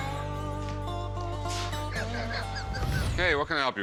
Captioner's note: laughs